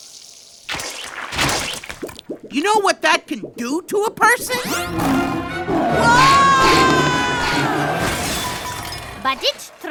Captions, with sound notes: YOU KNOW WHAT THAT COULD DO TO A PERSON? (GROWLS) WHOAAAHAAHHHAH! BUT IT'S TRADITION!